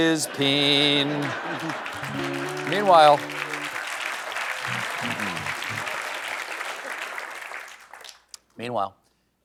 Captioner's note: applause